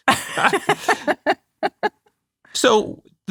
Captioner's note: laughing